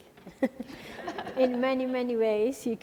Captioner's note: laughing